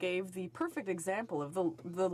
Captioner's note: speaking french